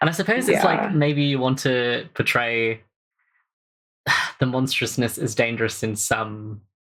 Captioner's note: sighs